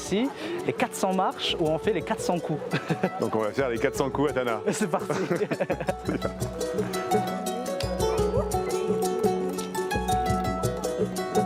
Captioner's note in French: rires